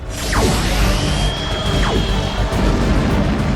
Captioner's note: beams whooshing; spaceship explosions